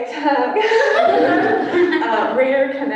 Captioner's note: laughter